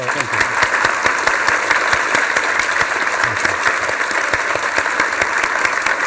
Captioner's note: applause